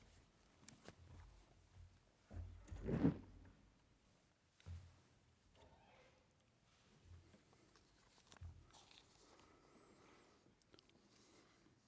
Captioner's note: different language